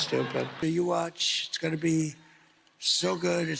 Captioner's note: applause